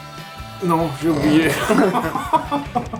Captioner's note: hahahaha